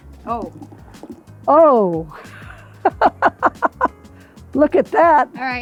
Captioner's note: laughing